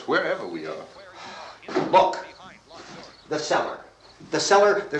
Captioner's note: sighs